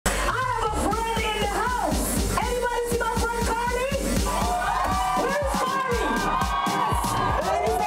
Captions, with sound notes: (soca music) - I have a friend in the house. Anybody see my friend, Karlie? (crowd cheering) Where is Karlie?